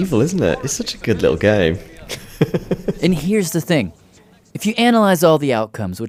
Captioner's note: laughs